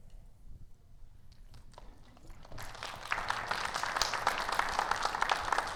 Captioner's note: audience applauds